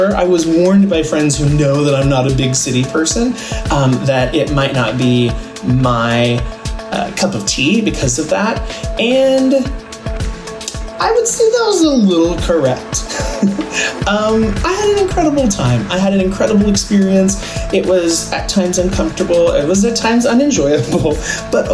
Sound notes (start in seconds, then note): 13.1 laughing